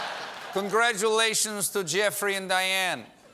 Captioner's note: as putin